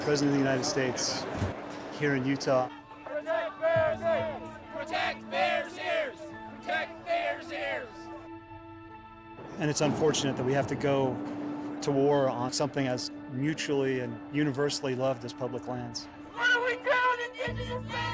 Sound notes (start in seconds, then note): 4.2 crowd; 17.1 crowd